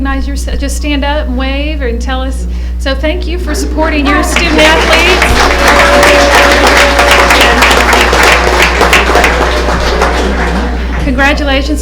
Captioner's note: applause